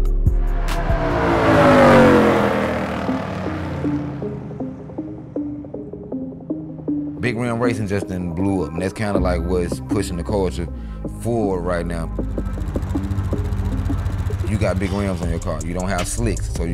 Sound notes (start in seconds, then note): 0.2 car zooming; 4.5 hip hop music; 11.6 car engine humming